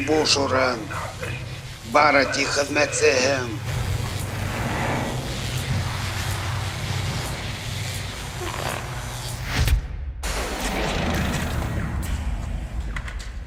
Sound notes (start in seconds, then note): 4.0 electricity crackling; 4.0 mechanical movements; 10.2 machine powering down